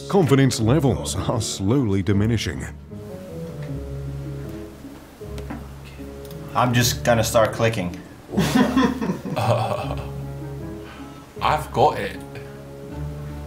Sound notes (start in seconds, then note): 8.3 laughter